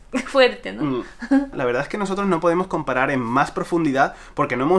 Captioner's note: giggles